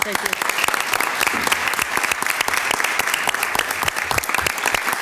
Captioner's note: everybody clapping